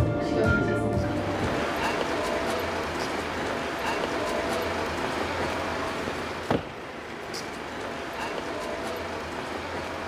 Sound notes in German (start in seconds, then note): 3.0 Verkehrslärm, Stimmengewirr